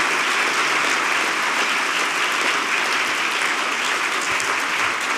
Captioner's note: applause continues